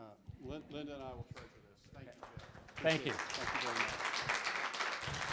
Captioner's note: clapping